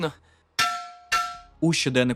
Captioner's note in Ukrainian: звук удару по металу